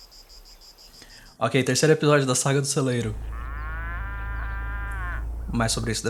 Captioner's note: muuu